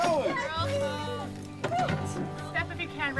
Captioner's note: visitors commenting